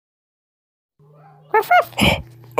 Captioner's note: Scruff barks